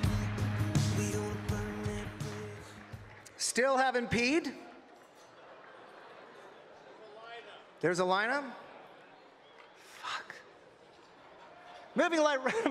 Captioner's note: applause